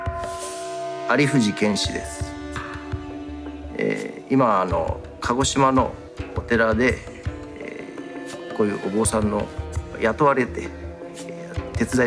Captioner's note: bell rings; speaking japanese